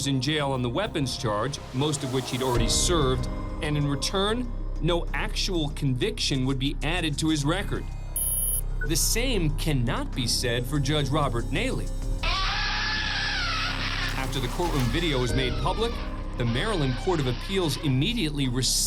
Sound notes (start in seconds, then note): 12.2 screams